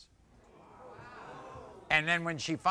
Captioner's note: audience oohs